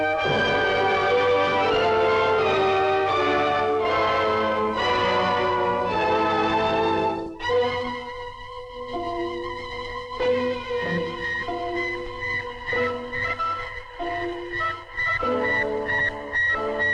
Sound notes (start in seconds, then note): 0.1 dramatic orchestral music; 7.1 tense orchestral music; 10.9 satellite beeping